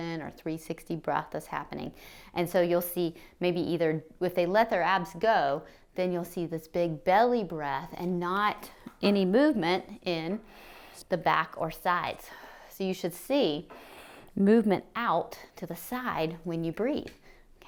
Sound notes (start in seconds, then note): 10.4 exhales; 10.5 inhales; 13.7 inhales